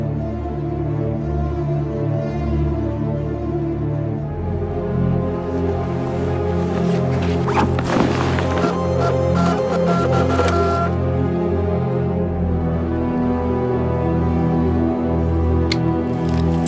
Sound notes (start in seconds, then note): 2.4 suspenseful music; 8.2 printer buzzing